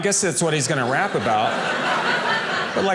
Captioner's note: audience laughing